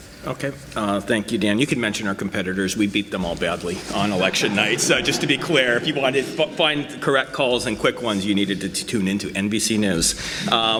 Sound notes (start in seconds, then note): 3.8 audience laughs